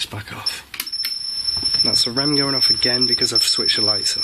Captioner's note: beeping